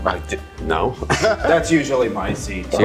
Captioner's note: laughs